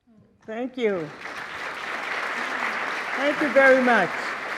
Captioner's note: audience applauding